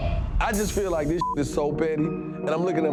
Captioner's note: beep